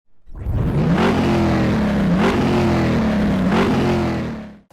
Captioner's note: engine revving